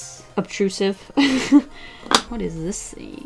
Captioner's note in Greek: Γέλια